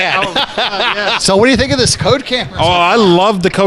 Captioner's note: laughter